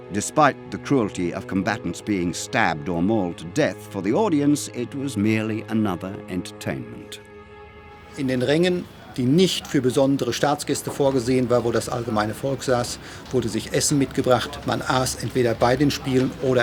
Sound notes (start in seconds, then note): 8.1 speaking German